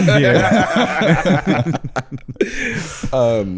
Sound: all laughing

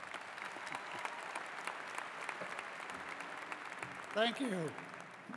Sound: applause

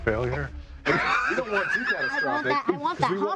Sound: laughing

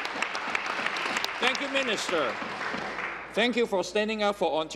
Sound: applause

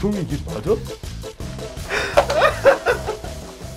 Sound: crying

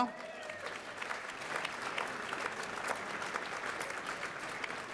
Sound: applause

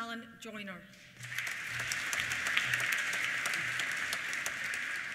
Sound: applause

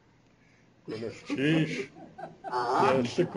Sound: non-english speech

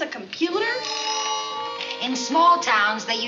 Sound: phone rings

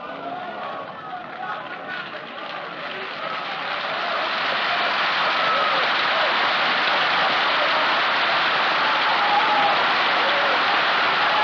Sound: applause

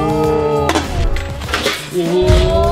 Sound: metal clanking

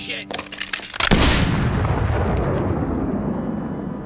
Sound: gunshot

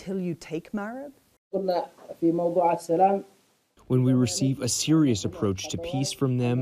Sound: through translator

